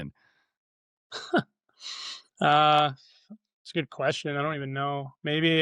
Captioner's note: laughs